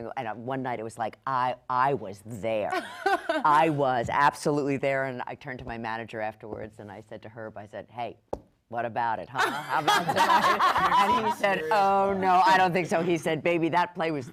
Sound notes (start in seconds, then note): 9.5 panel laughs